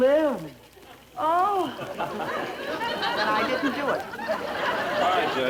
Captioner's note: audience laughter